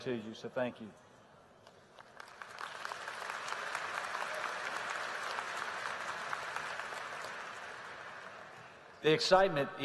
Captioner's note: applause